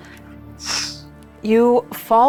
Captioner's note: mimics air whooshing